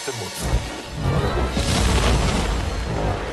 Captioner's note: canon blast